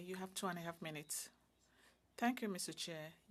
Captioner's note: speaking french